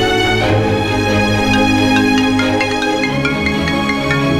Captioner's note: Phone rings